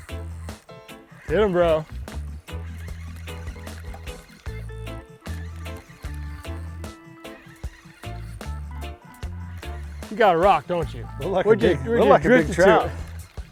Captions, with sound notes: Get 'em, bro. (reel whirring) You got a rock, don't you? - Look like a big- - Look Like a big trout.